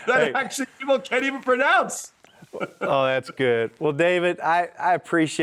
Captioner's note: chuckling